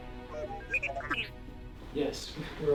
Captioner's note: R7 chirping